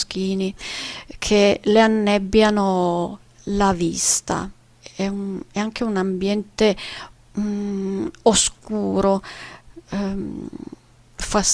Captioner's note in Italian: sbuffare